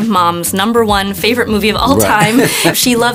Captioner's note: chuckles